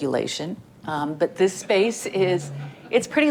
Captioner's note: audience laughing